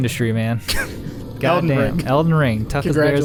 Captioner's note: laughing